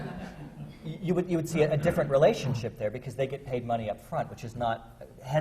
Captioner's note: laughter